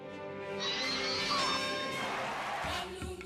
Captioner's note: audience cheering